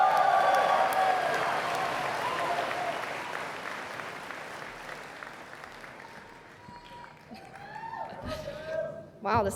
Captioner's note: cheers and Applause